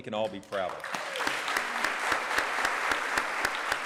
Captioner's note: applause